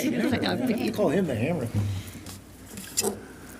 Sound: laughing

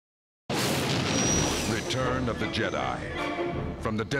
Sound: man Announcing

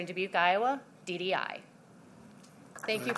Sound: applause

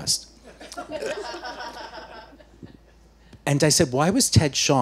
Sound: audience laughing

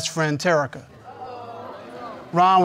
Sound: audience mumbles

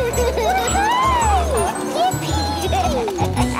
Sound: giggling; laughing

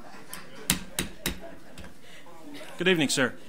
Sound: gavel bangs

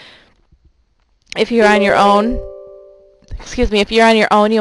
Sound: computer chiming

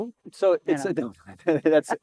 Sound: both chuckle

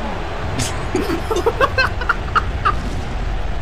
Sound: both Giggling

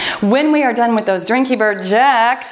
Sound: timer beeping

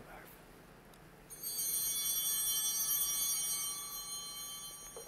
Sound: bell ringing

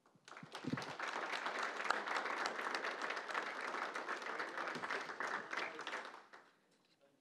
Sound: applause

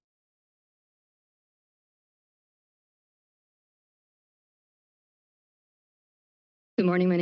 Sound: silence

